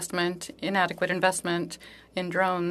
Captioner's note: speaking French